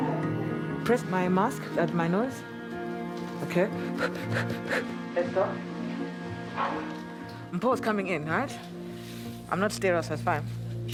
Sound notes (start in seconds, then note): 3.8 fast, shallow breaths